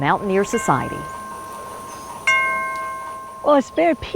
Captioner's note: wind chimes dinging